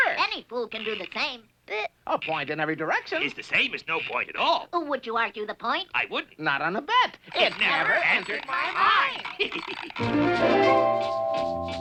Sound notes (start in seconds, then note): 9.1 laughs; 10.0 chiming music